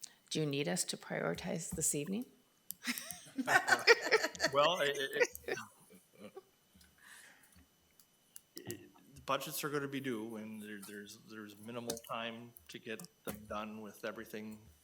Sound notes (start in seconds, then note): 2.8 board members chuckle